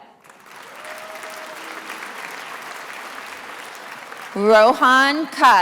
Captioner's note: attendees applauding